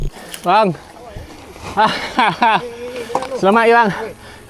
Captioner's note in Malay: ketawa